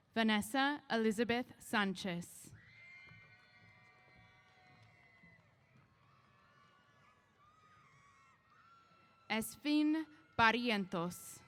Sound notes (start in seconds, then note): 2.6 applause & Cheers